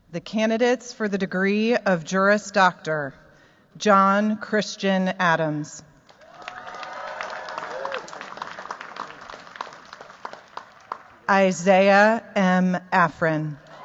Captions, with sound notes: The candidates for the degree of Juris Doctor, John Christian Adams. [APPLAUSE] Isaiah M. Efron.